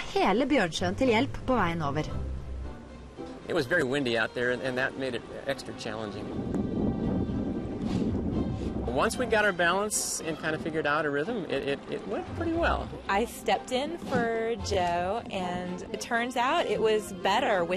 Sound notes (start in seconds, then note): 0.3 norwegian narration; 6.3 wind noise